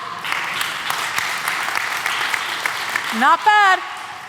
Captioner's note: applause